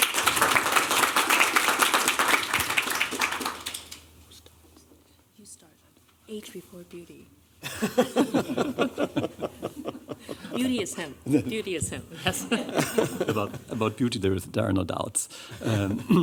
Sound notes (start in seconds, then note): 0.0 applause; 7.6 laughter